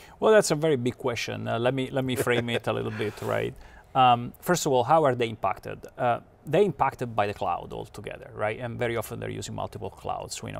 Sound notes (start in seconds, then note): 2.2 laughs